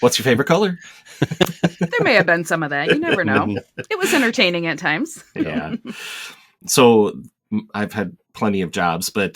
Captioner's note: laughter